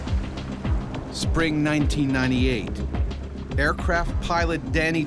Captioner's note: voiceover